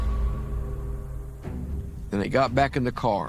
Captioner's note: gunshot booms